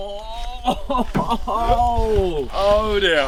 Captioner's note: laughing